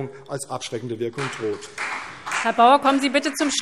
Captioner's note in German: Beifall CDU und BÜNDNIS 90/DIE GRÜNEN